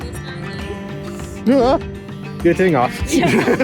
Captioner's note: gasp